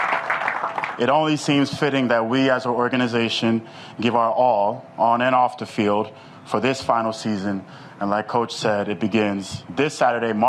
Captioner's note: applause